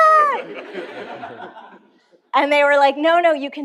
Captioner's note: laughter